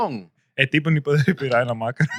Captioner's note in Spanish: Hablando en idioma extranjero